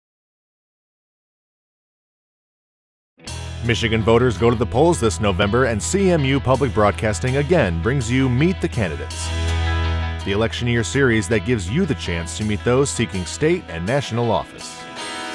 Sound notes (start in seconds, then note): 3.5 voiceover